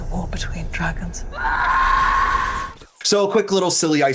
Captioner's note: screams